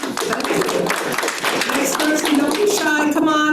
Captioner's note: attendees clapping